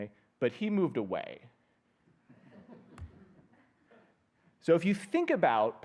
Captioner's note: laughter